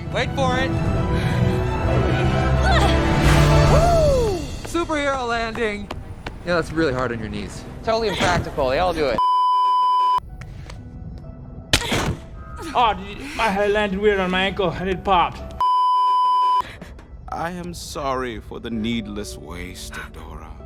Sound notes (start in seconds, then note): 9.2 beeeeeeeeeeeep; 12.2 omph; 15.6 beeeeeeeeeeeep; 16.7 sobbing over Catra's limp body/corpse